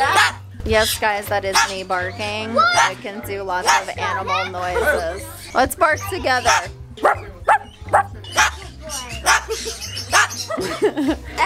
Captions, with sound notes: - Yes guys, that is me barking. I can do a lot of animal noises. Let's bark together. (barking)